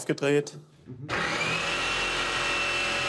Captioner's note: loud whirring